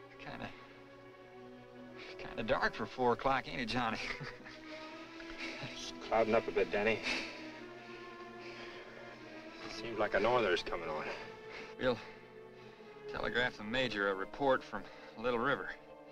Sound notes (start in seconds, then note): 3.8 chuckles